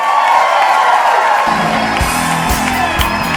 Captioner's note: applause/Cheers